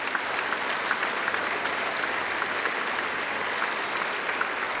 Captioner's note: applause